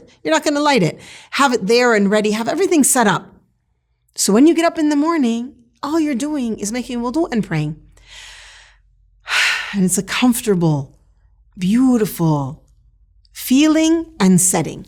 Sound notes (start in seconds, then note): 7.9 breaths deeply